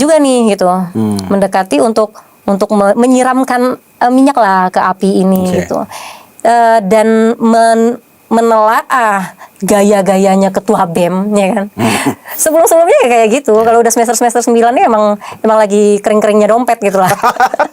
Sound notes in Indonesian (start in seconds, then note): 12.4 berdehem